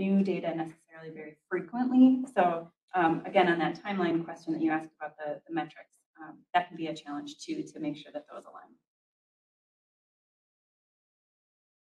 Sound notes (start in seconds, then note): none